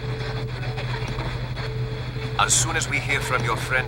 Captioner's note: radio static